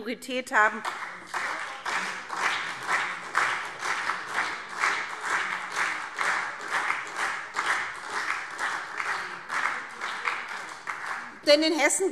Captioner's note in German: Beifall SPD